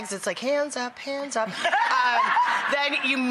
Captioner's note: audience laughs